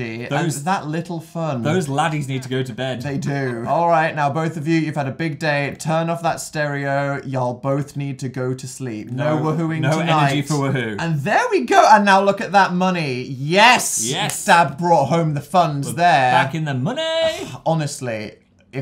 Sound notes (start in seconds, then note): 14.3 claps